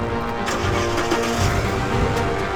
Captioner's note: car starts